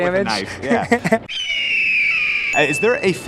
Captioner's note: eagle screeches; bell dings